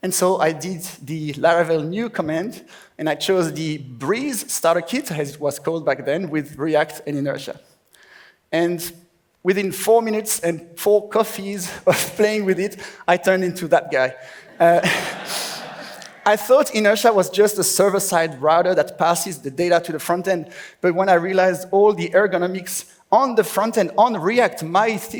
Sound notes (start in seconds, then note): 11.4 laughs